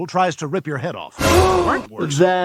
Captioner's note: gasps; dramatic music